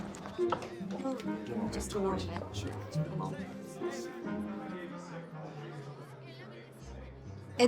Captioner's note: chattering